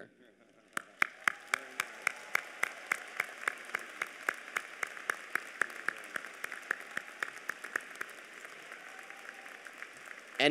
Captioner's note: applause